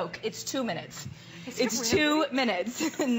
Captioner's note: laughter